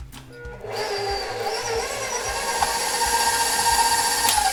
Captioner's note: mixer whirring